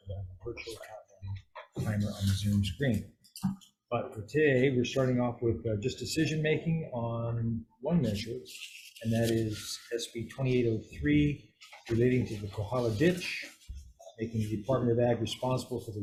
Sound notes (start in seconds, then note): none